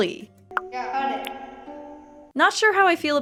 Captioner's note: Theodore echoes